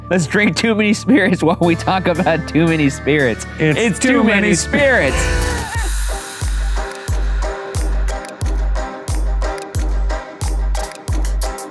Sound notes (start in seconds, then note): 3.4 foreboding music; 4.7 laughing; 6.5 upbeat music